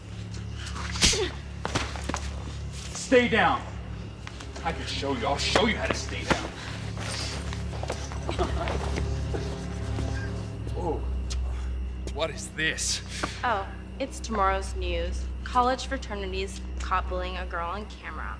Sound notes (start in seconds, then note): 0.9 hard slap; 7.9 tugging on jeans